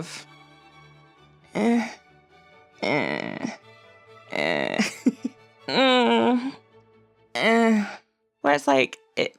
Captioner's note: various 'ehhh' noises